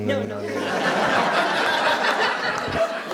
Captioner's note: laughter